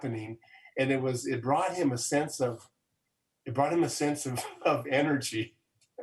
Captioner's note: laughs